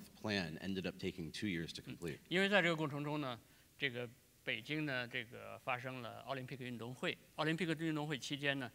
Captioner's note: speaking in Chinese; speaking in Chinese